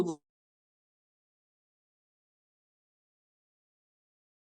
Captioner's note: audio cuts out